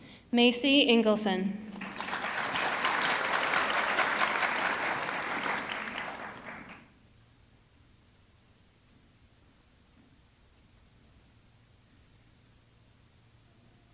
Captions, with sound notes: Macy Engelson, (audience clapping)